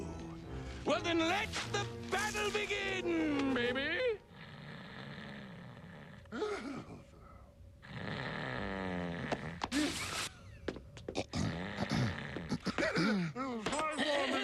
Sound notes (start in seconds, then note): 4.3 snoring; 6.3 throat clearing; 11.1 clearing throat